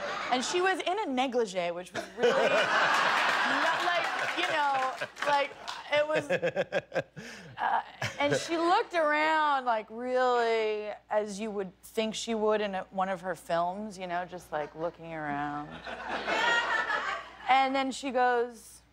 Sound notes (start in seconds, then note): 2.8 laughter